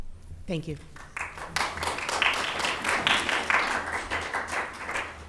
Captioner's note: audience clapping hands